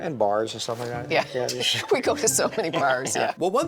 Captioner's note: laughs